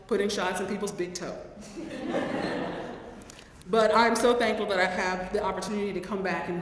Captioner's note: laugh